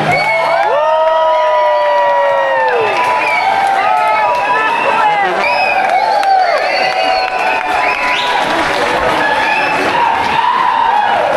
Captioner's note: applause